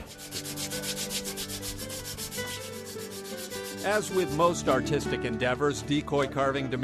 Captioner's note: sanding